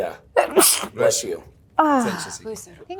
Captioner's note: Elizabeth sneezing